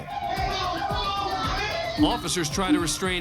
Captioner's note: indistinct shouting